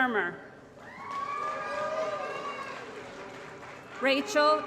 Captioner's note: applause & Cheering